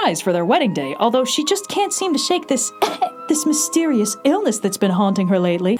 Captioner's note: cough